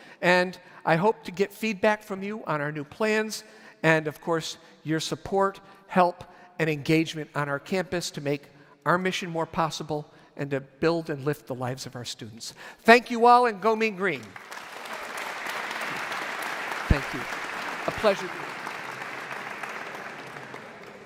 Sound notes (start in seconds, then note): 14.2 audience applauds; 20.8 indistinct audience chatter